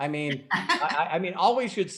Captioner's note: laughing